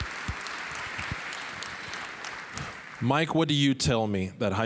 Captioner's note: applause